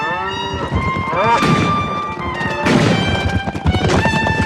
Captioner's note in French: Coups de feu